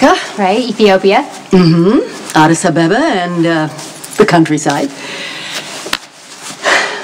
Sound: sighs

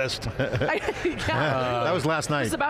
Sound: laughter

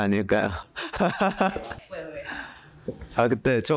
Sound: laughs

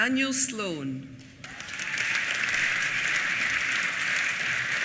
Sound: applause

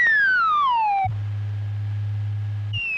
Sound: high pitched wheee noise; lift whirrs; whee noise decreases in pitch

